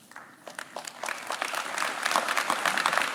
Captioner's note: claps